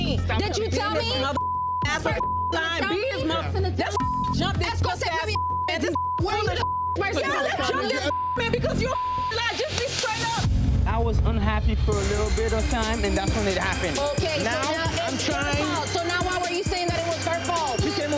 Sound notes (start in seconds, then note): 3.8 beep; 7.5 beeps; 7.8 beep